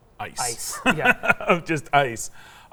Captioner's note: laughs